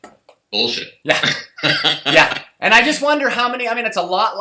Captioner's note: laugh